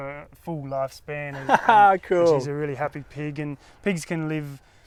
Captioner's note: laughs